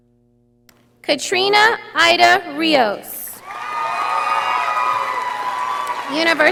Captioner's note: audience applauding